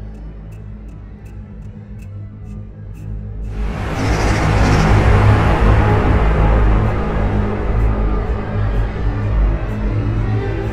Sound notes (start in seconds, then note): none